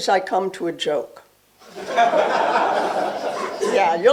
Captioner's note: laughter